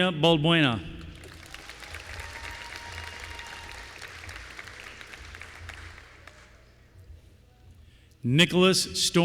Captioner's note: applause